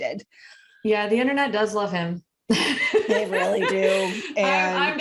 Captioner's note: wheeze